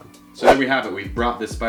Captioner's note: logo whooshes